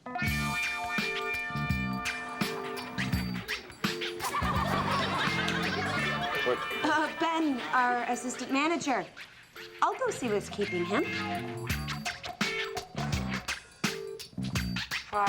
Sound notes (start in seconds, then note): 0.2 gentle lilting music; 3.8 audience laughs; 12.0 gentle lilting music